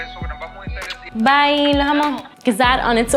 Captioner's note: father speaking foreign language; speaks foreign language